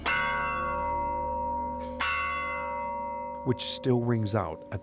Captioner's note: bell ringing